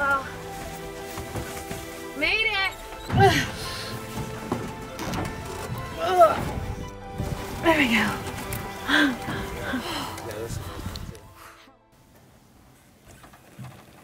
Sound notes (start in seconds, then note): 3.2 grunting; 8.5 breathing heavily